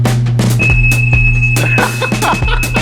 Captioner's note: frequency humming; laughing